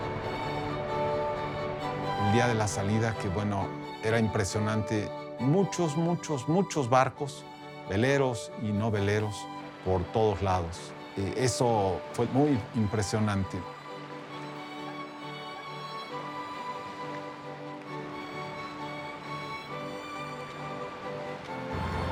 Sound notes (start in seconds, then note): 0.2 in Spanish; 16.2 water lapping; 19.9 airplane engine humming